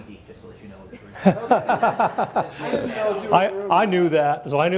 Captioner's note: audience laughs